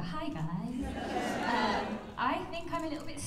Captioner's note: laughter